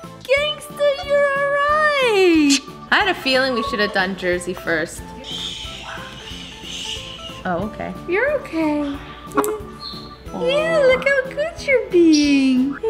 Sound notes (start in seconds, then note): 5.4 soft shushing